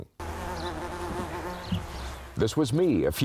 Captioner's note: bees buzzing